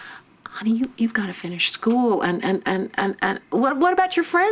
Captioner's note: stutters